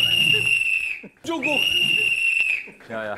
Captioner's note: The whistle is blown